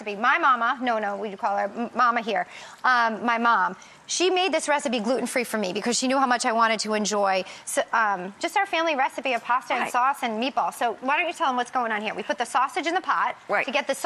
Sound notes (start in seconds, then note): none